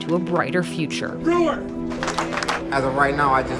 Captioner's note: audience clapping